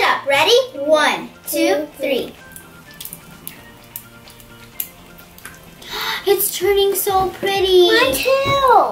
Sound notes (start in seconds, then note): 2.2 slime crackling